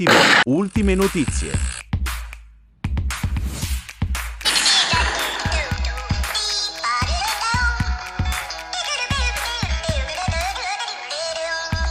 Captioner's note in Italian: Applauso